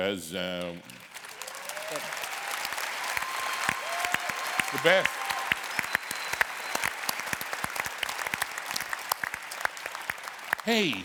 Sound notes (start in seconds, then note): 2.9 cheers and applause